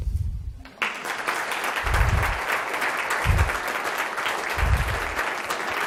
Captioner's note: audience applauding